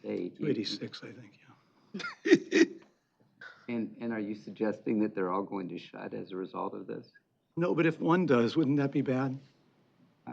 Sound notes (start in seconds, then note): 1.9 chuckles